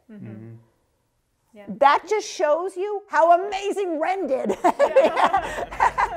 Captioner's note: laughter